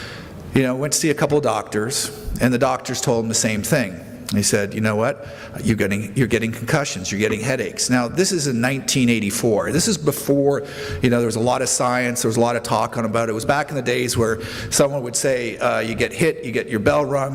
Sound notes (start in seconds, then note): none